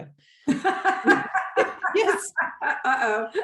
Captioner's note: laughs